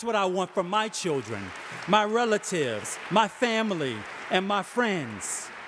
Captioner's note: audience applauding